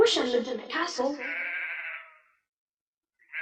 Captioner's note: goat baaing